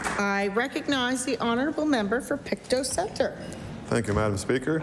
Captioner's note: applause